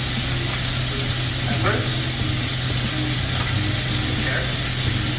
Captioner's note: ingredients sizzling